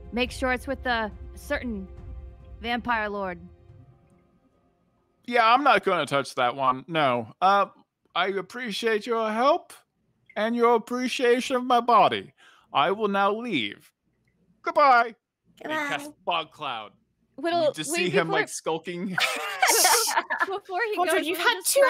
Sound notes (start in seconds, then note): 19.0 laughs